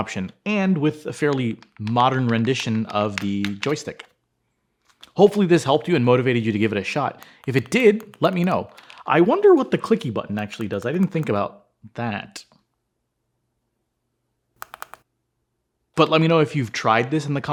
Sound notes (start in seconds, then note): 14.6 clicky clicky